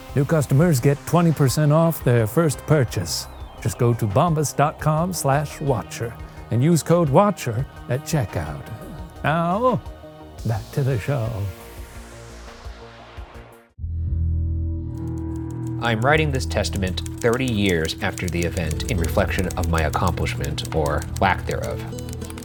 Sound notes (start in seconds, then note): 13.9 keys clacking; 13.9 unsettling music